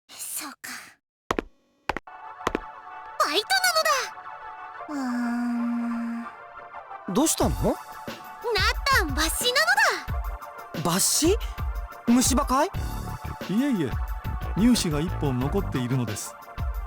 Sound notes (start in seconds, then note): 5.0 hesitant groan